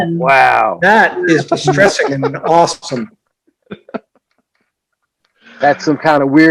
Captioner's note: laughter